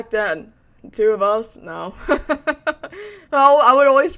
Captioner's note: laughs